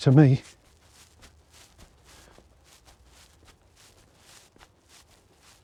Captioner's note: footsteps